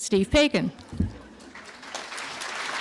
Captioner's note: applause